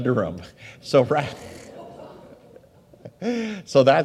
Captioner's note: audience laughs; laughs